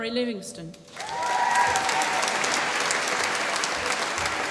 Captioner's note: applause